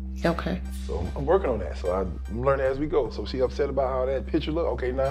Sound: none

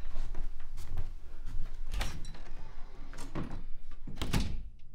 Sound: door opens and closes

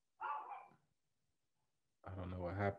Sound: dog barking

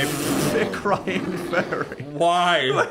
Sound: laughs

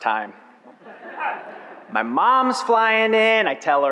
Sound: audience laughs

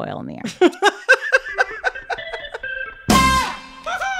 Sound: soundbite of tv show, "the simpsons"

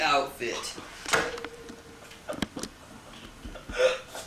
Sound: weeps softly

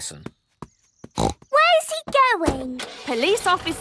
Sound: snorts

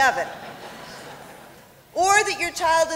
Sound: laughter

